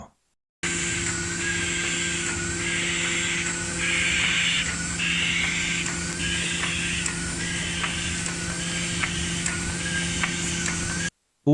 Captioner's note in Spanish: sonido de la máquina en marcha